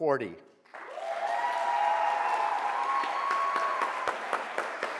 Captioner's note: audience applauds